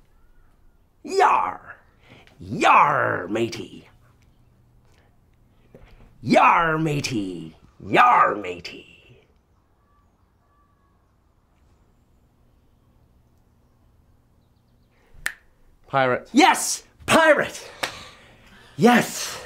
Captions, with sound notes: Yarr! Yarr, matey! Yarr, matey! Yarr, matey! (snaps) - Pirate. - Yes, pirate! Yes, okay.